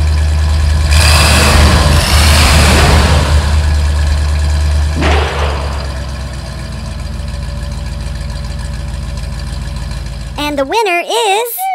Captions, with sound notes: [ engine revs] [ engine revs] [ slam] [ slam] and the winner is .....